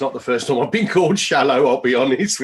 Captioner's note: laughing